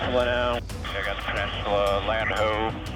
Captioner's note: person Over Radio